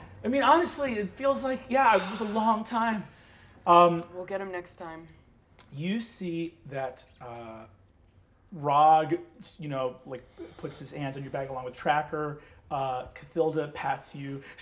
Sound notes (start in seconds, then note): none